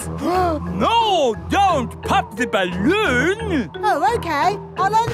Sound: gasps

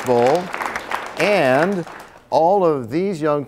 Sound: applause

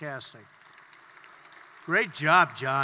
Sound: applause

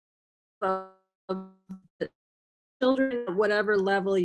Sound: microphone squelching

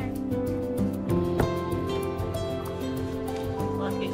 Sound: ball bouncing

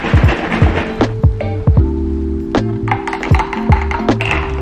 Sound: milk crate shaking; ice clinking

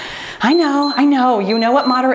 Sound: timer beeps

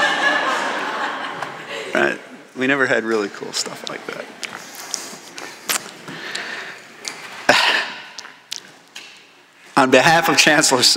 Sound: laughter

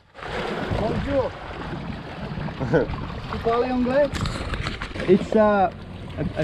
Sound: speaking in a foreign language

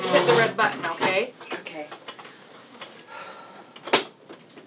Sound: sighs

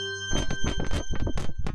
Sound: upbeat electronic music; plastic squeaking

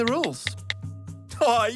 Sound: clicking

